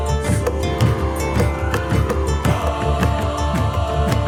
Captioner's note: kids shouting